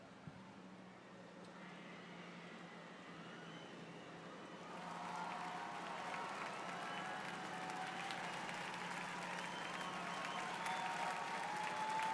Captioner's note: cheers and applause